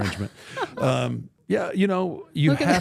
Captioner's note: laughs